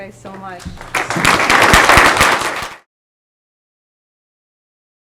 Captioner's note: applause